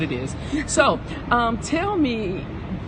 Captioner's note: laughs